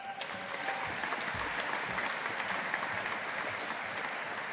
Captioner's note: audience applauding